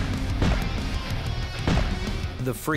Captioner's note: gun firing